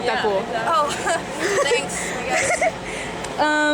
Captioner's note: laughter